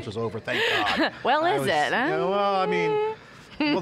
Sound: laughs

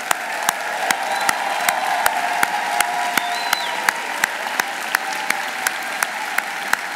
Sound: audience applauding; audience cheering

